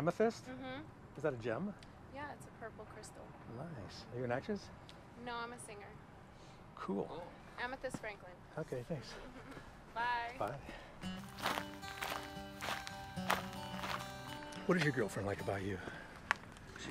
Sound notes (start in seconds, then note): 11.0 gravel crunching under foot; 11.1 upbeat music